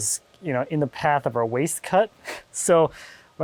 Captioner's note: laughing